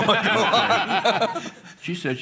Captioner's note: laughter